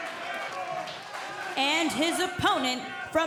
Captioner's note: cheers & applause